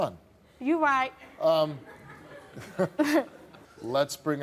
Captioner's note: crowd laughs